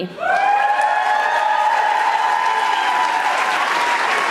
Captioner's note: audience applauding